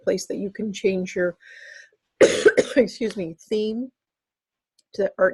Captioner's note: coughs